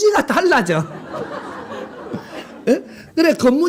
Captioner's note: laughter